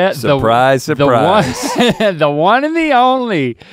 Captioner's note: chuckles